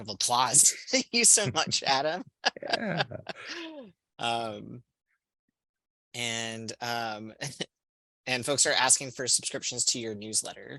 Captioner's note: laughter